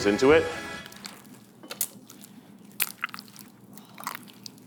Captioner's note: dough squelching